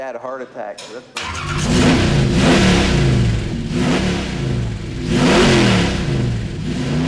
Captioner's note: engine starts, revving